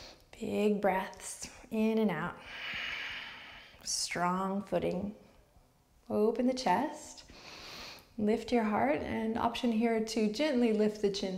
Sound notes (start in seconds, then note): 7.4 inward breath